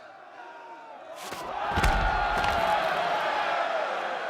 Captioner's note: crowd cheering and shouting